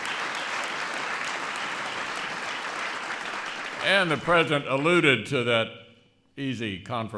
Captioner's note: applause